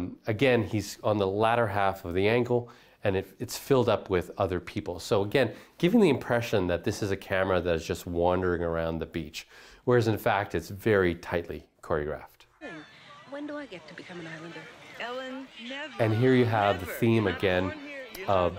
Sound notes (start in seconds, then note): 12.6 women chatting on screen